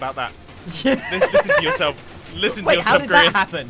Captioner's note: laughs